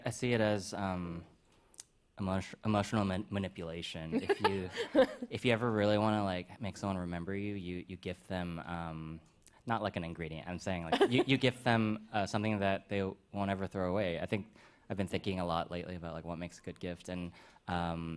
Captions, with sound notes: that's, uh, I-I see it as, um, emotio-emotional man-manipulation. If you-- -[laughs] -If you ever really wanna like make someone remember you, you-you gift them, um, not like an ingredient, I'm saying like- -[chuckles] --you-you gift them, uh, something that they won't ever throw away. I think I've been thinking a lot lately about like what makes a good gift.